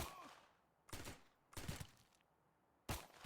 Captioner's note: yelling in German in background; guns firing